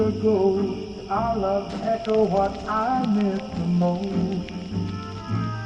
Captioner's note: needle on record